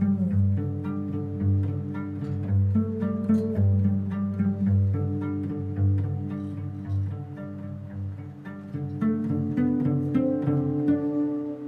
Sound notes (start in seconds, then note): none